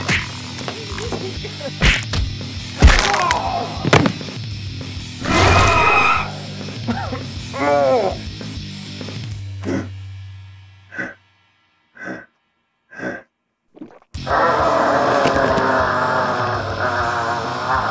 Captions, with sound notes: [ ROAR ] [ gulp ] GRRRRRRRRRRAAAAAAAAAWR!